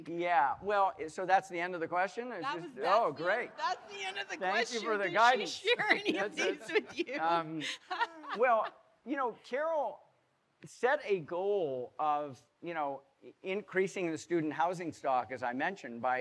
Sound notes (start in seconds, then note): 8.6 laughing